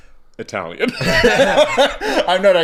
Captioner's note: laughing